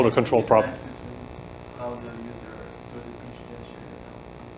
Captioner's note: author mumbling